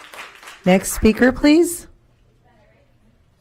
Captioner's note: applause